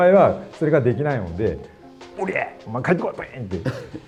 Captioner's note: laughs